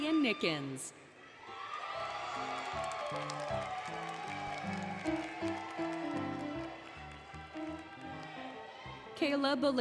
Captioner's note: applause, Cheering, Music